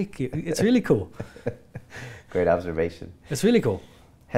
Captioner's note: chuckles